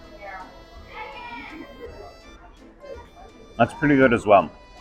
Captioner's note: crowd chattering